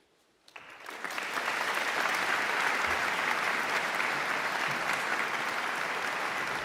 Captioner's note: audience claps